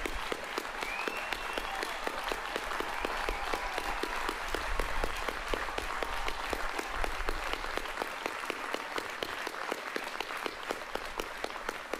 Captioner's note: applause